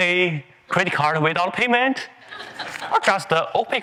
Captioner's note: attendees laughing